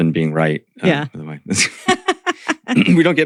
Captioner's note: laughs